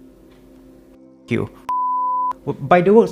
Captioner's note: beep